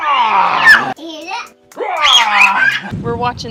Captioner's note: some more roaring and giggling